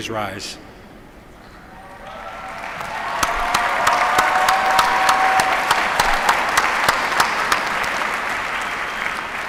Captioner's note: applause